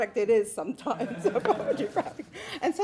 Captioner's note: laughing